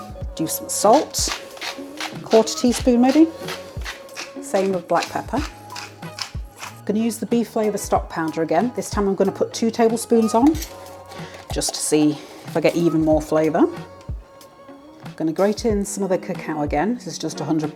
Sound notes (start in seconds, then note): 3.3 salt mill grinding; 5.7 mill grinding